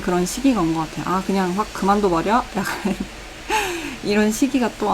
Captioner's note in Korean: 헉 소리